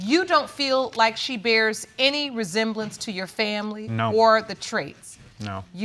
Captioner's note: none